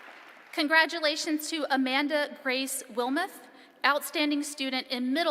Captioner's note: applause